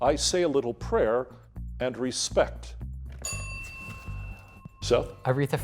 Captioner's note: bell dinging